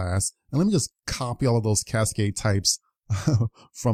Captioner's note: giggles